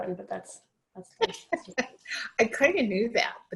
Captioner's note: laughing